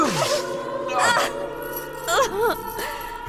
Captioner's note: startled cry; pained moan; grunt; screeches in the distance